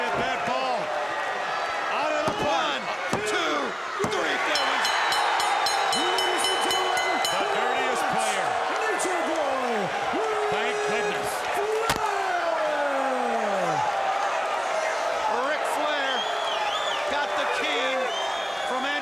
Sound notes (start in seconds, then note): 4.4 bell ringing; 13.8 crowd cheering